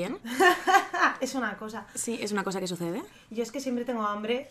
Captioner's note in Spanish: risas